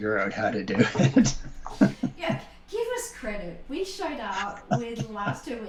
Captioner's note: laughter